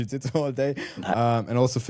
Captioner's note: chuckles